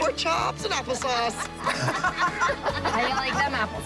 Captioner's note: moms laughing